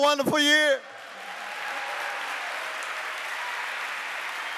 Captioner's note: applause